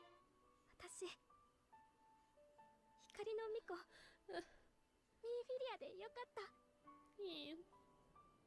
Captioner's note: in Japanese